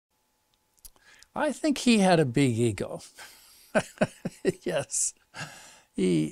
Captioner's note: laughs